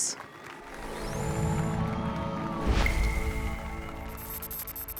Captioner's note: applause and cheers